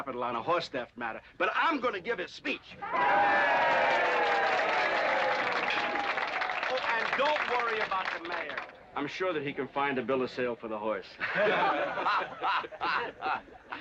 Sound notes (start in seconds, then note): 2.8 audience cheering & applauding; 11.2 crowd laughing